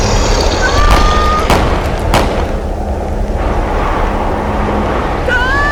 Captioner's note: Giuliana screams; guns firing